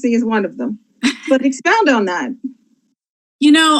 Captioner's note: laughs